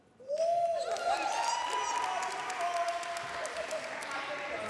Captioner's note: audience cheers